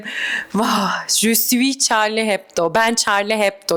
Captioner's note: nostalgic sigh